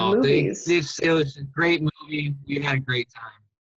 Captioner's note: video garble